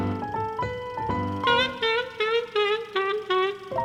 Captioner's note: trumpeting laughter